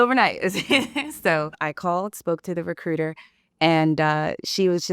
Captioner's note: laughs